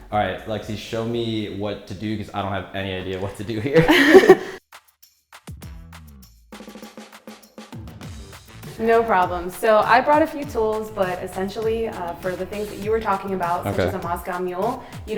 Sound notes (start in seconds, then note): 3.7 laughing; 3.8 upbeat music